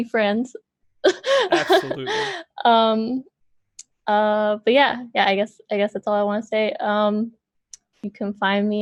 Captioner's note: laughs